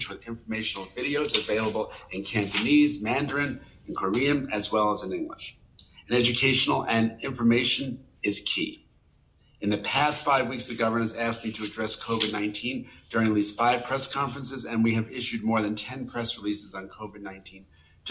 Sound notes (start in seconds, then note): none